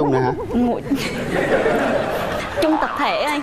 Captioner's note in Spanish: risas